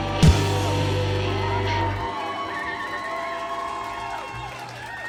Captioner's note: audience cheering